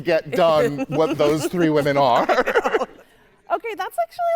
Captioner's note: laughing